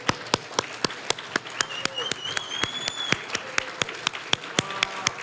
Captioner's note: applause; whistling; applause